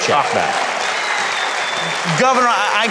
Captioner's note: audience applauds